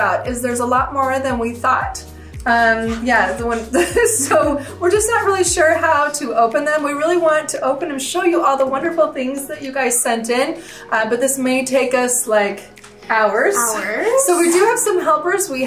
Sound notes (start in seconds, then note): 2.8 chuckles